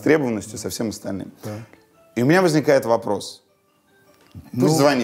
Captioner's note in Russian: в доме звонит телефон